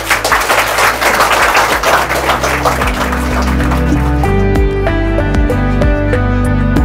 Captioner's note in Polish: oklaski